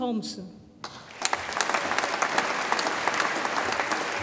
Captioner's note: audience applauds